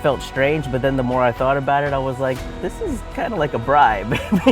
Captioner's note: chuckles